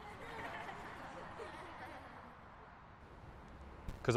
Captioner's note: children laugh